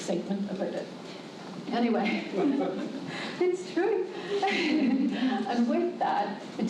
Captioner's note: laughs